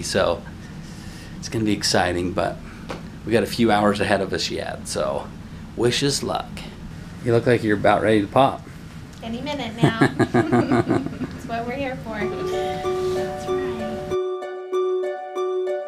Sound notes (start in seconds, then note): 9.8 laughing